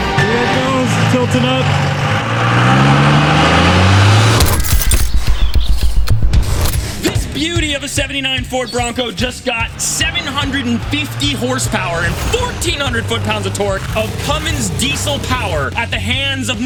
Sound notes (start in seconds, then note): 2.6 engine roars; 4.2 dramatic clock ticking